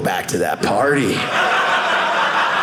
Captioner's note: audience laughing